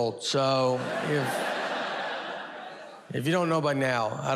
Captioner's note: audience laughs